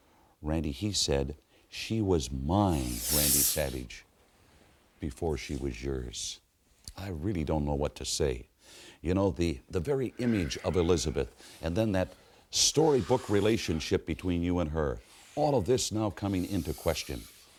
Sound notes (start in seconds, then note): 2.9 Savage inhales sharply